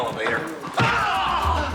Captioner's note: grunting